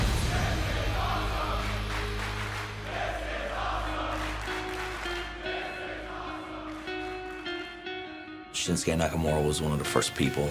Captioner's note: fans chanting